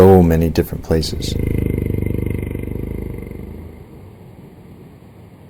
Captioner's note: creepy sound